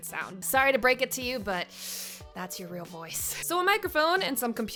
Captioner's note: inhales